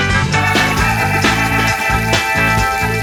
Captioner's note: fountain